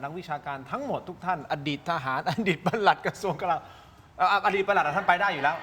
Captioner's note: laughs